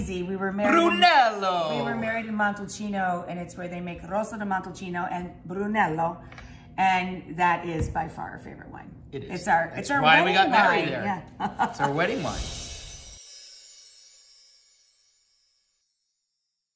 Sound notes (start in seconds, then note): 11.4 Rachel chuckling; 12.4 chimes jingling